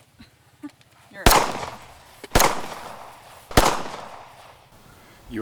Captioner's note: gunshots boom